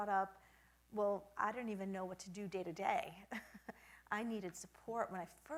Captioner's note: chuckles